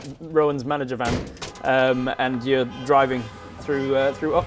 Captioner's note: traffic jam noises